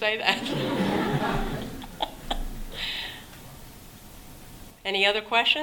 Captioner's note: laughter